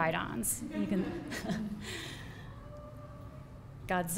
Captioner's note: laughs